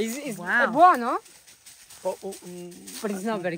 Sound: truffle hunter speaks Italian

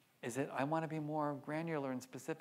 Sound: none

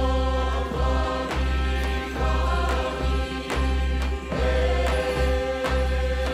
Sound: performers singing in foreign language

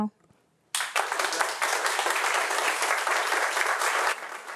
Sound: audience applauding

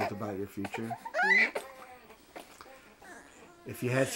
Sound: baby wails

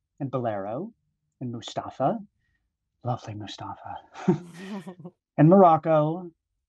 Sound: both chuckling

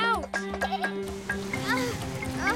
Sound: grunting

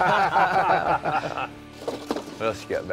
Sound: laughter

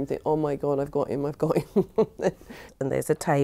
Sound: laughs

